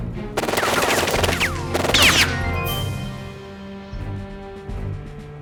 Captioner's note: guns firing; dramatic music